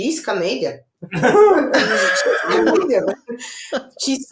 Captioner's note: all laughing